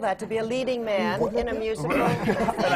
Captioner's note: laughs; laughter